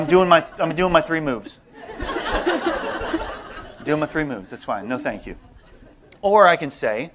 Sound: laughter

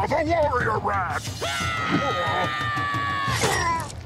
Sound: yelling; grunting

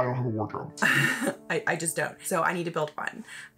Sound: distorted voice

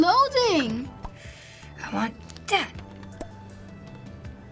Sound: sharp breath

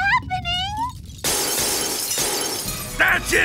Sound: glass shatters

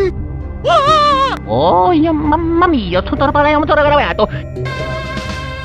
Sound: italian gibberish

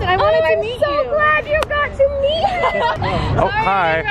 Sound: background fan

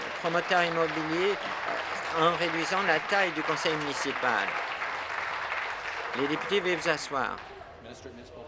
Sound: applause

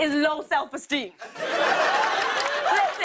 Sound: laughter

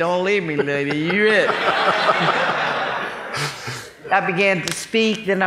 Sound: laughing

